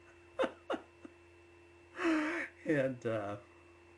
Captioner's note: laughs